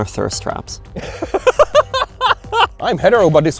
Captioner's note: laughing